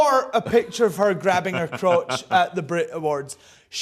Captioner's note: laughs